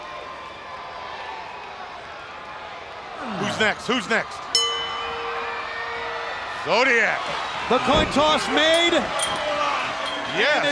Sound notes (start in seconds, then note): 0.0 crowd chatter; 4.5 bell ringing